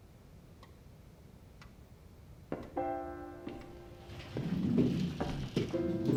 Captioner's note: clock ticking